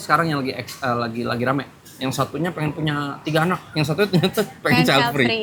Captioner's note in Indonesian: tertawa